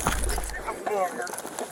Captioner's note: radio chatter